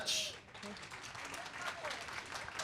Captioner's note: applause